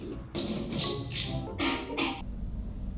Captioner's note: wet egg mixture slopping